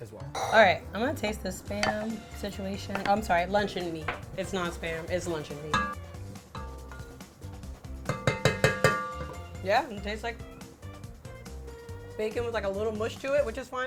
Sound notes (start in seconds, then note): 1.5 spoon tapping; 1.6 plate scrapes; 6.0 spoon clanging